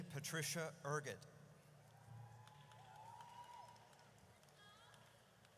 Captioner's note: audience cheers